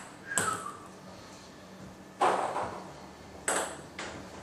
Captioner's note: ball ping pong hitting continues